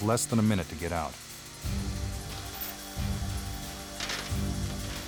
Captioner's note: drill whirring; dramatic music continues; chains clatter